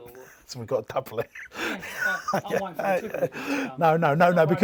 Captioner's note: laughing